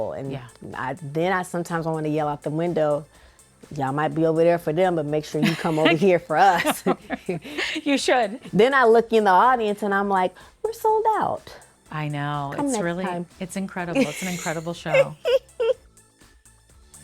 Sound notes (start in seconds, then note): 6.3 both laughing; 13.9 laughing